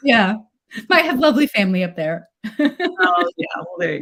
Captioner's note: laughs